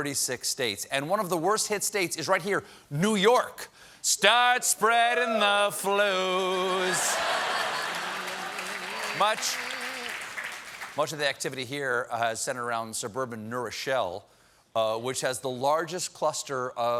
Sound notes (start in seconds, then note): 6.3 applause